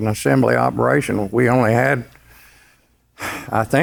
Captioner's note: sighs